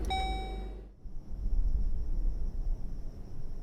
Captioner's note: car beeping